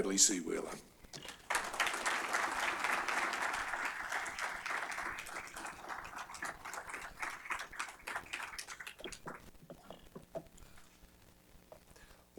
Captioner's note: applause